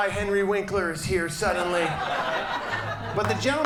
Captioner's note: audience laughs